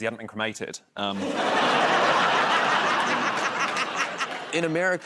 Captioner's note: laughter